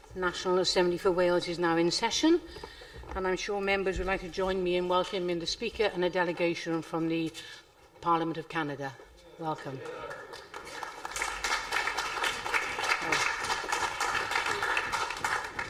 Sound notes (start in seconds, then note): 11.6 applause